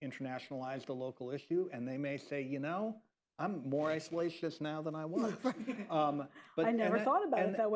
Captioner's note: laughter